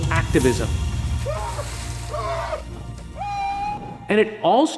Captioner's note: Lebron screams